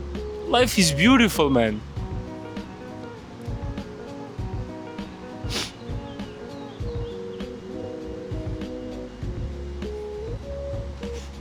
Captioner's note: breaks down